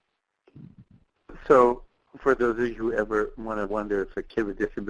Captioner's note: voiceover